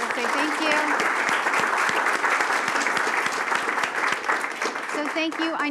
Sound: applause

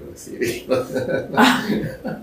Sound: laughing

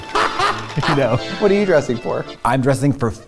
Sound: laughs

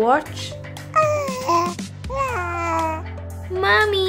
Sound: baby noises

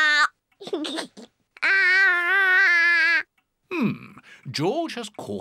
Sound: giggles

